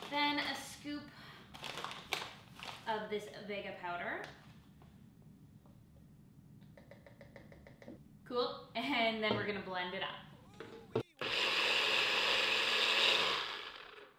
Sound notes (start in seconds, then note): 6.7 tapping; 11.1 blender whirring